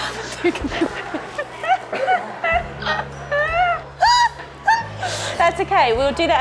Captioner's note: laughing